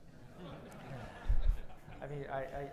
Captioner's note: audience laughs